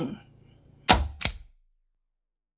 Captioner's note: click